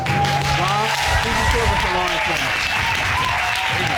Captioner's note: audience cheers